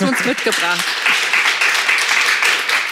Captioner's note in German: Applaus